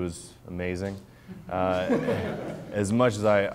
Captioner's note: audience laughs